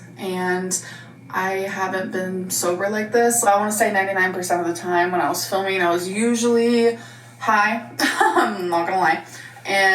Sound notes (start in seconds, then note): 8.0 laughing